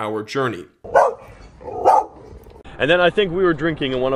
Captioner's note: dog barking